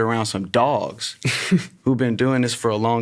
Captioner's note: laughs